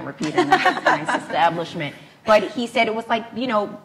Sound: laughs

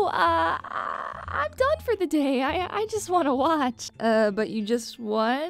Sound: embarrassing tone

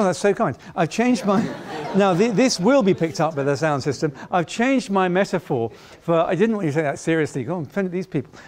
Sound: laughing

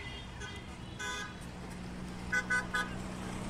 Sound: honking

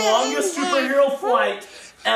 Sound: child babbling

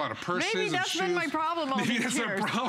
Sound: laughter

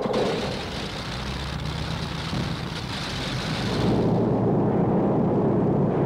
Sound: airplane propellers running

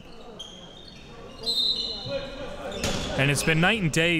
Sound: whistle blows

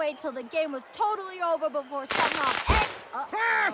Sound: firecrackers crackle

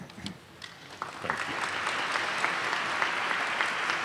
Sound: audience applauds

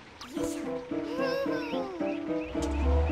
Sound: ominous music begins; Chiffon hums contently

